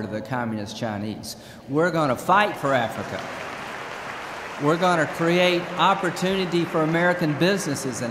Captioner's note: applause